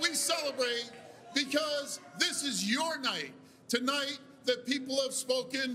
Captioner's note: cheers and Applause